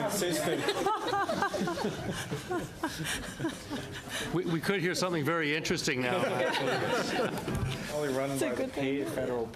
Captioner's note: laughter